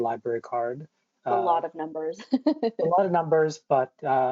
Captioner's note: laughs loudly